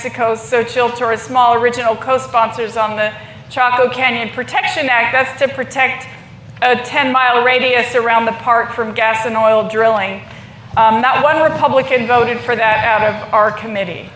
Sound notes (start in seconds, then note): none